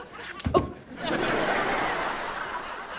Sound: laughing

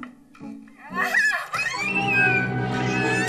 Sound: both scream

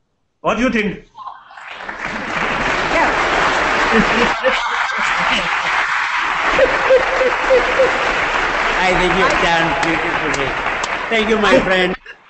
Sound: applause

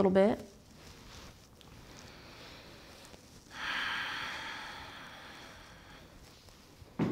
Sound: heavy breathing

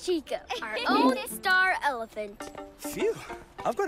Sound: laughs

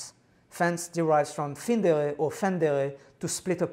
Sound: non-english

